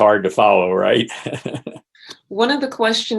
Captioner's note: laughs